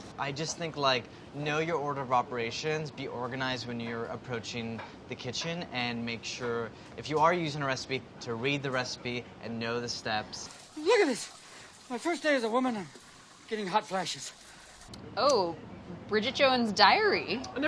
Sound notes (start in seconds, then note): none